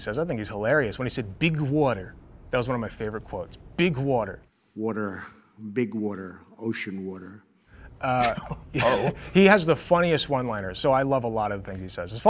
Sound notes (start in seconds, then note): 8.1 laughing